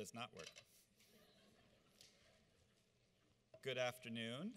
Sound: audience laughs

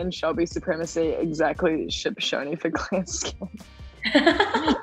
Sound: laughs

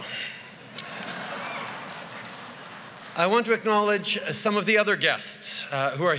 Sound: laughter

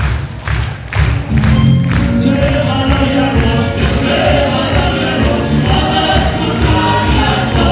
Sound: applause

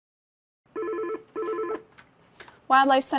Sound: phone ringing

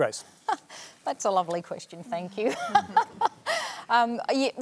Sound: laughs

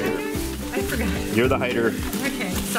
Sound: laughs

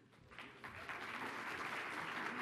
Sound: applause

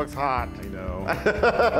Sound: laugh

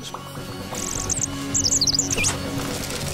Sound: chirping

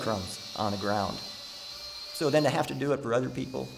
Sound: drill whirring

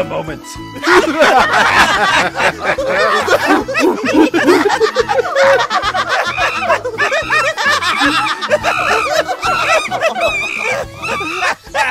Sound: uproarious laughter and ape noises

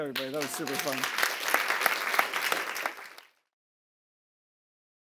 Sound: applause

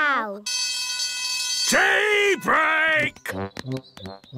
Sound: alarm ringing

